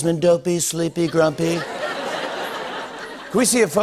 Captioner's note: laughter